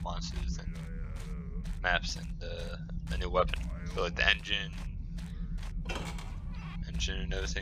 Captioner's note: guard grumbles